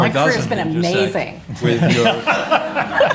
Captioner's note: laughter